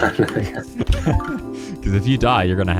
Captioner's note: laughing